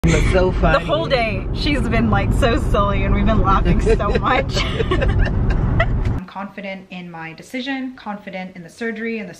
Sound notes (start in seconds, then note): 3.7 laughing